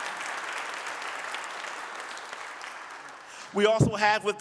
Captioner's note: audience applauding